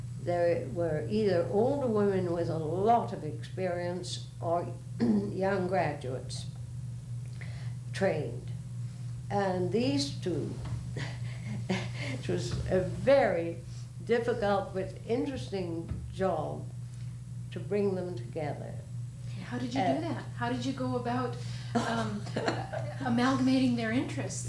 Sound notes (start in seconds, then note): 11.0 laughs